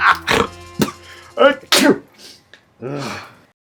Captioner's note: maniacal Laughter; sneeze